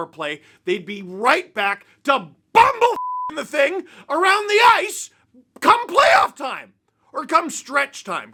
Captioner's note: beep